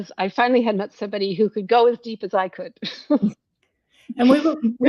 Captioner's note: chuckles